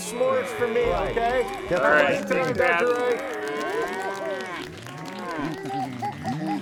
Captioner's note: mooing and applauding drown out other sounds